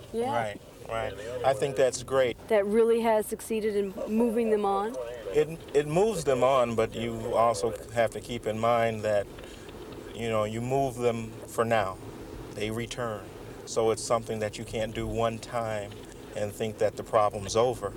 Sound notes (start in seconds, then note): none